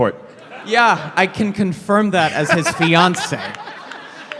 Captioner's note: laughing